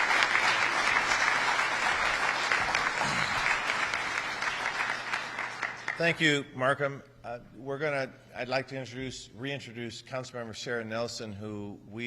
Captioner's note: applause